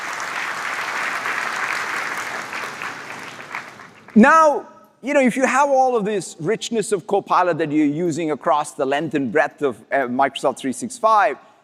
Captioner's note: applause